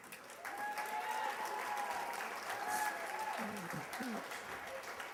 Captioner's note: cheers and applause